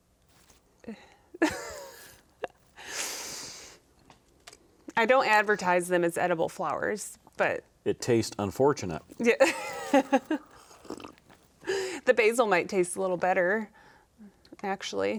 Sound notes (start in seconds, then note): 1.4 laughing; 9.2 laughing; 9.2 gulping